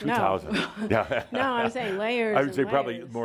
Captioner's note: Adamus chuckles